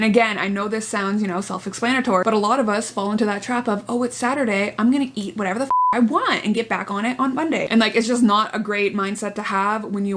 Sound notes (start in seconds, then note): 5.7 beep